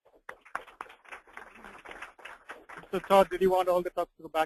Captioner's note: applause